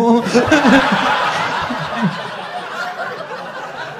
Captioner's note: crowd laughing